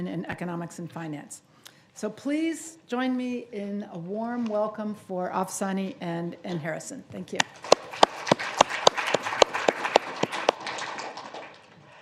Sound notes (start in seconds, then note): 7.5 audience applauding